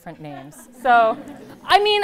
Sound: laughter

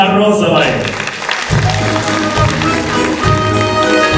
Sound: applause

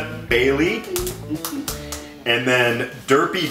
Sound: humming; clapping

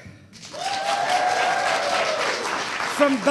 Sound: audience cheering

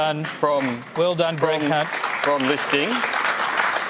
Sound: applause

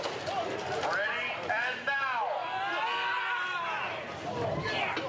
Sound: screaming

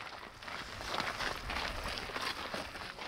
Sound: sound of footsteps on gravel

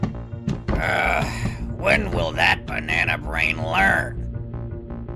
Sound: sigh

